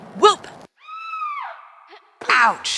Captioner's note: girly scream